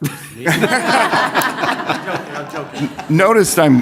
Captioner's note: laughter